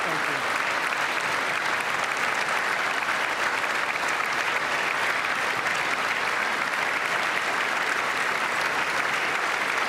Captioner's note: applause